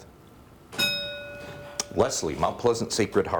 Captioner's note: bell rings